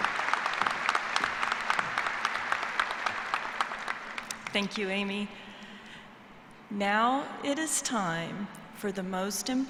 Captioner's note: applause